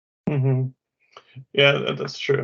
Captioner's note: humming